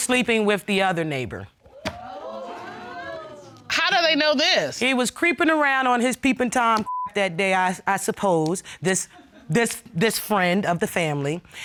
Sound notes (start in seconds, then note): 1.7 audience exclaiming